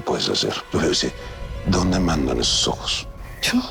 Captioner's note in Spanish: Habla entre dientes